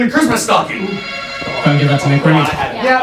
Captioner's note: buzzer buzzes